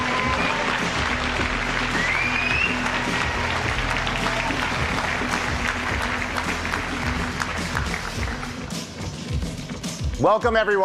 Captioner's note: applause